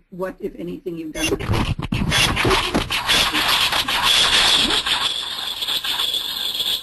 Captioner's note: screeching noise; woman echoing